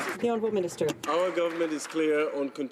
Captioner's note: some Applause